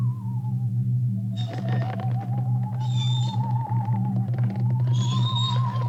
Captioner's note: cart wheels creaking; eerie music continues